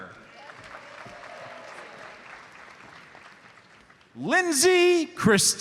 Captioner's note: audience applauds